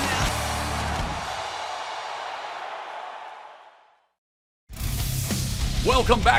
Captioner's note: cheers and applause